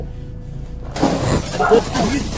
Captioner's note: thudding; speaking in foreign language